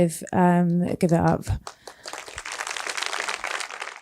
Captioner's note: applause